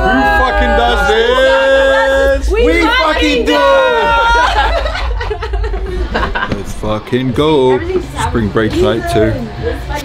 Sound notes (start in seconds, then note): 3.7 laughing